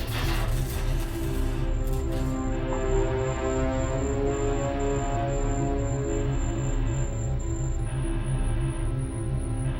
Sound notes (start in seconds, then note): 2.9 scanner beeping